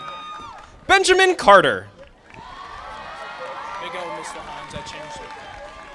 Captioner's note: audience applauding; audience applauding